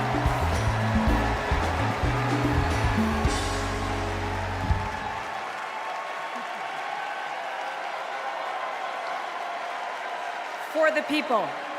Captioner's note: cheers and applause